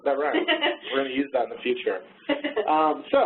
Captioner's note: laughing